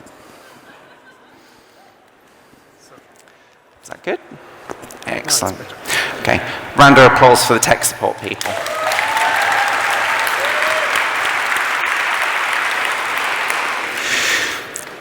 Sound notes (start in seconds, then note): 10.6 applause